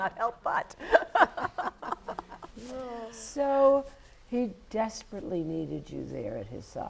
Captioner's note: laugh